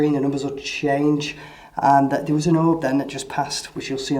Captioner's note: speaks quickly